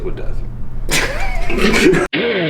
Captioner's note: both laugh; rock music